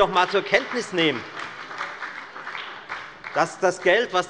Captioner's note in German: Beifall bei der FDP und bei Abgeordneten der SPD